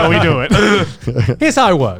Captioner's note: all laughs